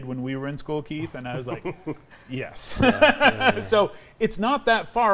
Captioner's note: laughs